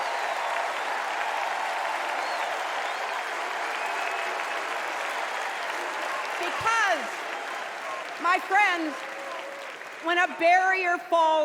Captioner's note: cheers and applause